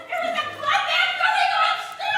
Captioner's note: protest utterances